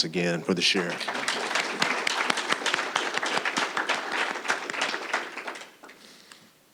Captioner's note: applause